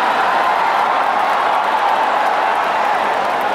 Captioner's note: the audience laughed